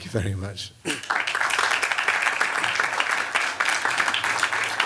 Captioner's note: applause